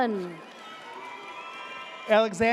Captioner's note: audience cheers